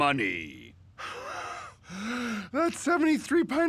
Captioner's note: wheezing